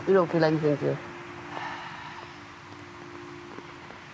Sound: craig sighs

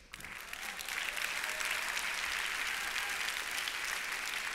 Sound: applause

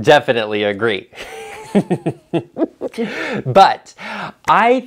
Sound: laughs

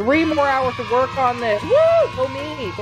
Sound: cheering

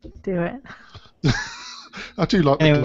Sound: laughter

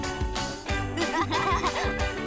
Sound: laughing

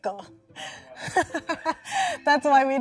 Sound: laughing

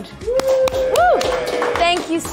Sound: people cheering

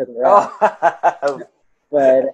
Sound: laughs

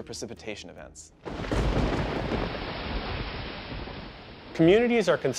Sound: thunder claps

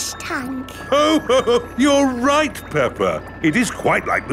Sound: laughs

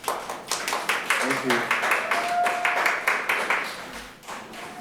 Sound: audience applauds

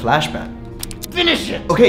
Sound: gun cocking

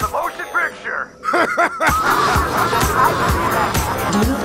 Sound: laughter

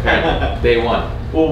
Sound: laughing

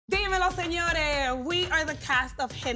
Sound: speaks in a foreign language

